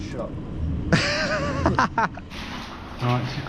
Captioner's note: laughing